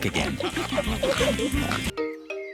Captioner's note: all giggling and snorting